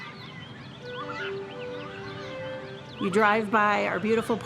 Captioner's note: nature sounds